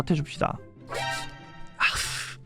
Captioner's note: sniff-sniff